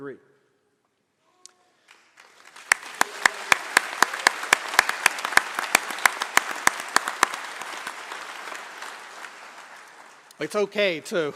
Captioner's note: applause